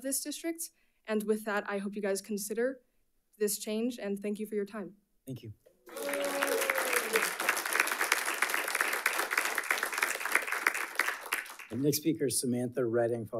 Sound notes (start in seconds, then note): 5.8 audience applauding